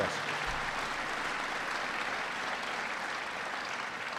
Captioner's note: audience applauds